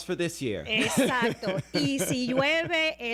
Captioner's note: Hablando ingl\s